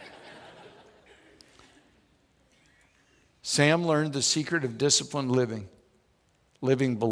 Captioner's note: audience laughs